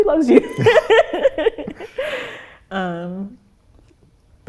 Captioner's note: both laugh